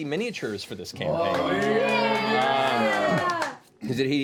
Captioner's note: cheering